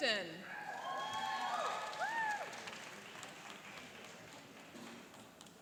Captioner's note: cheering and applauding